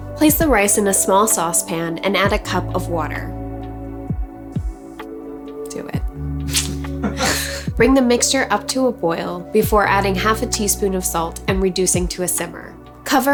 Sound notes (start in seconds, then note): 6.4 man laughs